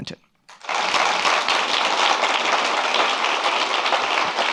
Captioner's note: audience applauds